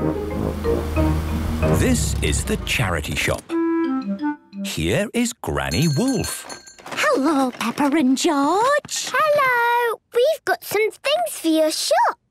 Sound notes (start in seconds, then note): 5.6 bell jingling